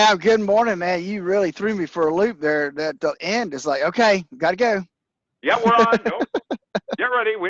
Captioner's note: laughs